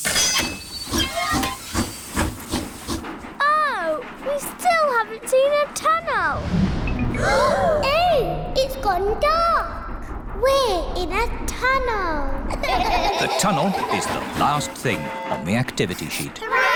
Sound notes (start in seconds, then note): 1.1 train chugs; 7.1 all gasp; 12.5 all laugh